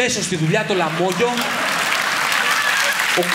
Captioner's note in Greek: χειροκρότημα